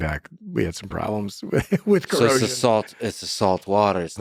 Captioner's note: laughing